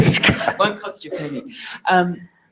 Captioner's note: laugh